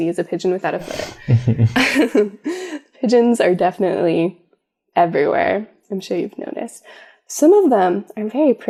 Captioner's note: laugh